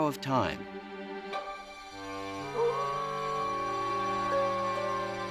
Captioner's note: wolf howling